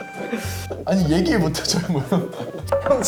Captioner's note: laughing